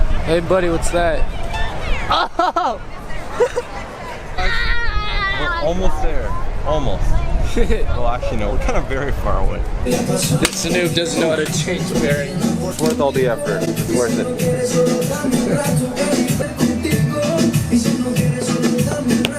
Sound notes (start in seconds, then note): 4.4 kid screams